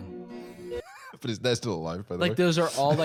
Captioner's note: laughs